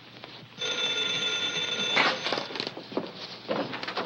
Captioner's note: phone rings